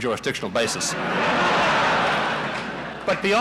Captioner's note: laughter in the courtroom